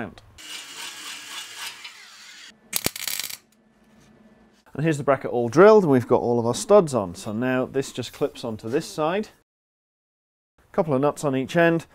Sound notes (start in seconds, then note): 0.4 drilling; 2.7 welding